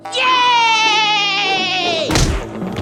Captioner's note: smack